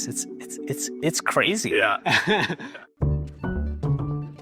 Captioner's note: laughs